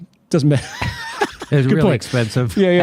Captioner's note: both laughing